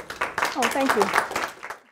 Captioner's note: applause